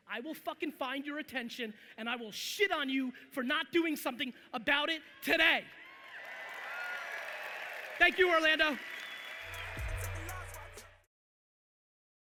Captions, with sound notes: I will fucking find your attention and I will shit on you for not doing something about it today! (audience cheering loudly) Thank you, Orlando! (hip hop music)